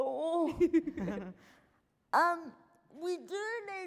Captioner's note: laughing